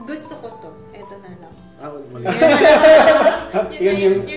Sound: laughs

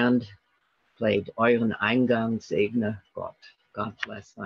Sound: speaking in German

